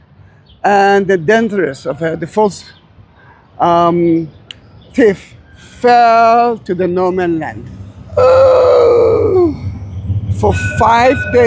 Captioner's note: screaming and groaning